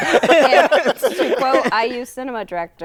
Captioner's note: laughter